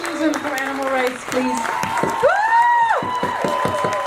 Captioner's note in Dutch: applaus